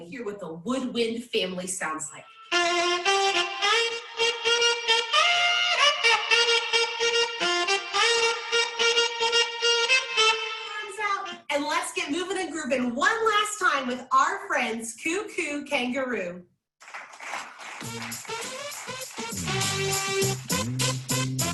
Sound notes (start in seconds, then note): 2.8 trumpet blowing; 16.8 audience clapping; 17.7 bright upbeat music